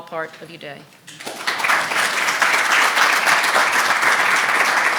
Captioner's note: applause